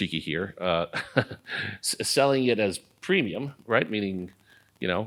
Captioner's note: laugh